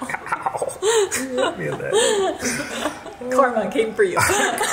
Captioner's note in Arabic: كلاهما يضحك